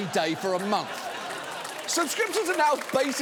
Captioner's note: audience laughing